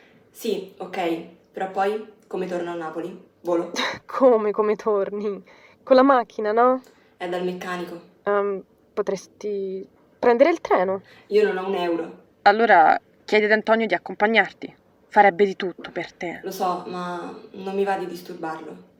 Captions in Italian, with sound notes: "Si, okay però poi? Come torno a Napoli? Volo?" *risata* "Come "come torni" con la macchina no?! "E' dal meccanico" "Em.. potresti.. prendere il treno" "Io non ho un euro!" "Allora.. Chiedi ad Antonio di accompagnarti!! Farebbe di tutto per te!" "Lo so ma.. non mi va di disturbarlo"